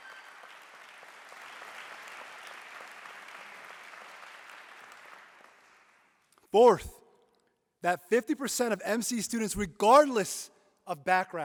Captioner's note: applause